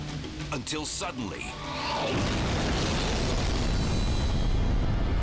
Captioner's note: explosion booming